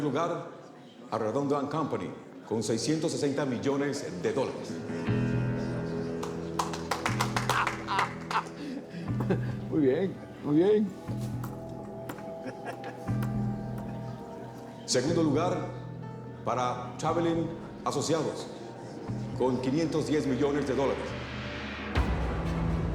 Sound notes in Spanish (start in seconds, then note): 9.1 Risas; 9.7 Aplausos